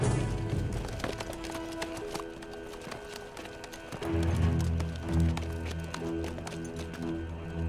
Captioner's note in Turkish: Atların ayak sesi